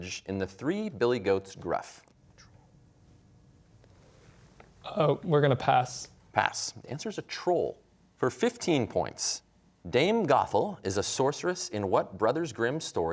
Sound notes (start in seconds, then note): 2.6 whispering